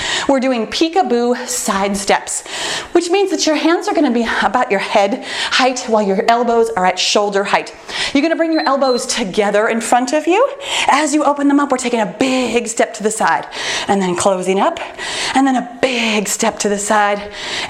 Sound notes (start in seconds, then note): 8.4 timer beeps